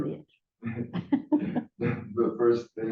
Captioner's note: laughter